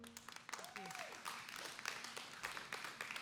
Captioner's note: applause